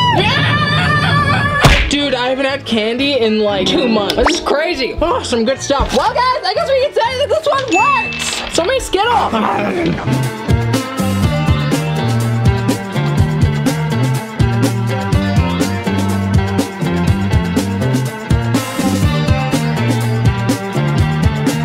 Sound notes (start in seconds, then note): 7.7 bell dings; 9.2 growls